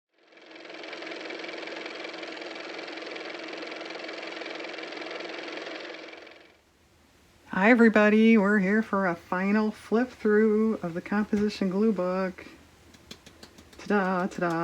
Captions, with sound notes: (car motor) Hi, everybody. We're here for a final flip through of the composition glue book. Ta-da.